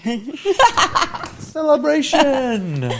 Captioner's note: laughing